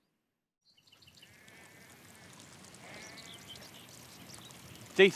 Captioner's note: murmuring of a small stream